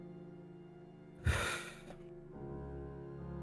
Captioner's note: sigh